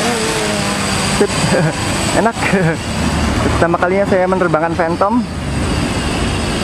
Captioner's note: chuckle